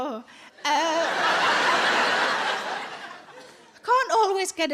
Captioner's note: audience laughing